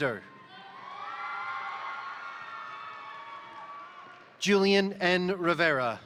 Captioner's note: crowd cheering; crowd applauding